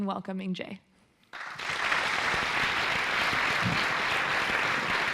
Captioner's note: applause